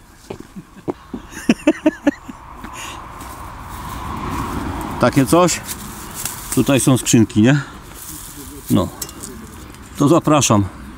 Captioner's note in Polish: śmiech